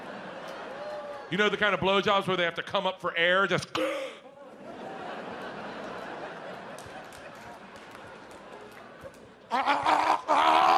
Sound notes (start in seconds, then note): 3.8 gasps; 7.4 audience laughs